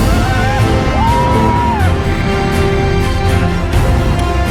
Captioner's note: screaming; majestic music